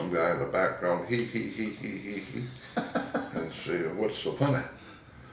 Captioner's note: laughing